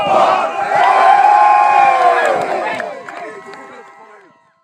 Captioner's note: crowd cheers